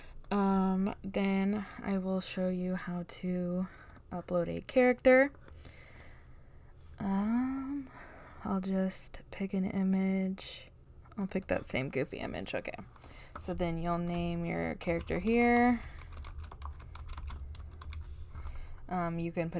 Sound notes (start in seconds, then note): 15.9 disembodied typing sounds